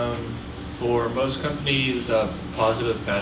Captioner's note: voiceover